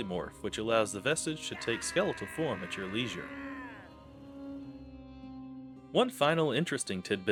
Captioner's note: ahhhhh!